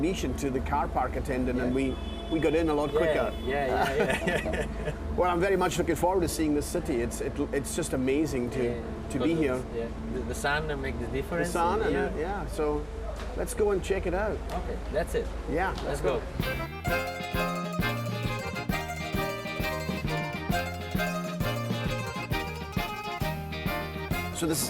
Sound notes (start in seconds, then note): 3.7 both laughing; 16.3 string folk music